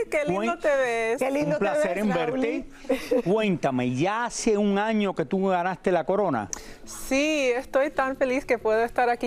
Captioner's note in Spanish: risas